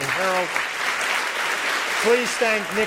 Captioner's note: applause